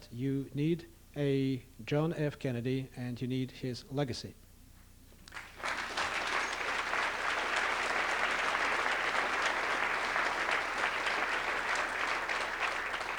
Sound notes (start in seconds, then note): 5.2 applause